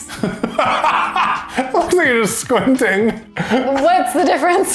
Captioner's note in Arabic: تضحك